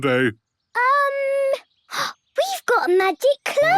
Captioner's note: gasps